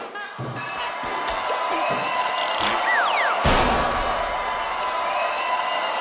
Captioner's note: playful noises; crowd cheering